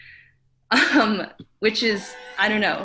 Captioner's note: giggles